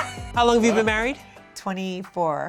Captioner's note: all laughing